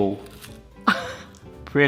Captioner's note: crunching; laughs